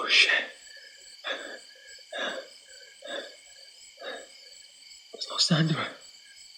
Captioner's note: Bailey breathing frantically